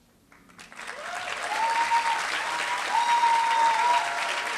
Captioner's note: applause